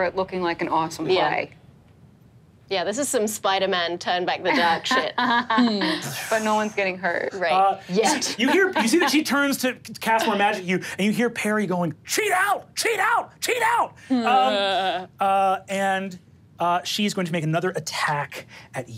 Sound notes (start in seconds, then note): 4.6 laughs